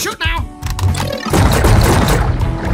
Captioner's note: pew Pew Pew!